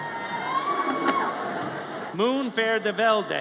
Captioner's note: audience cheers